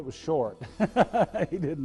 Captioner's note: laughs